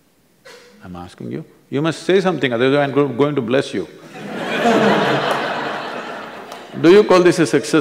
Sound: laughter

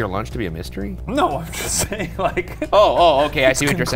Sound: laughing

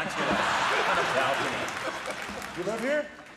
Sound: Jeff and audience laugh

